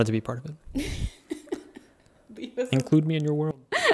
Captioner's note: laughing